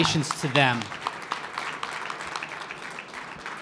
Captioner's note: applause